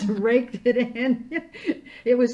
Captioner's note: laughing